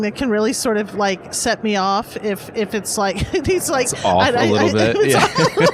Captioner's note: laughs